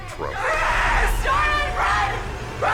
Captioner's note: screaming